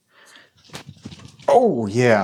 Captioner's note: shuffling